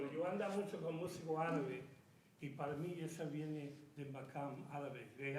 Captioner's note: speaking in Spanish